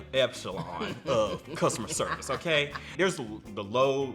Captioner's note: laughs